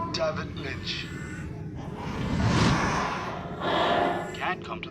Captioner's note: distorted babies cry